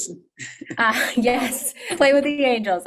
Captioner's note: laughs